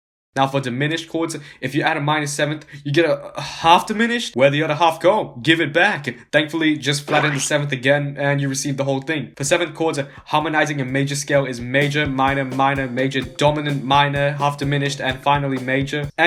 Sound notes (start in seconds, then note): 0.0 silence; 7.0 squash